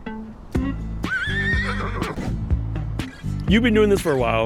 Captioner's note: upbeat music; horse neighs